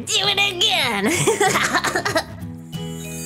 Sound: laughing; soft music

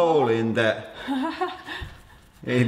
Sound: chuckles nervously

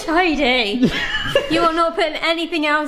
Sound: laughs

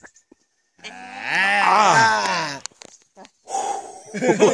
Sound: gasps; laughter

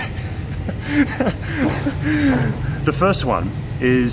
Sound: laughing

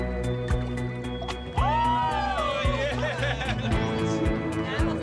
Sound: cheering; laughing

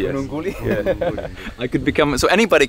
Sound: laughs

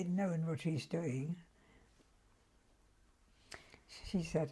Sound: pauses for 3 seconds

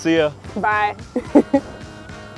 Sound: laugh

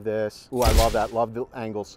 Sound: shutter snaps

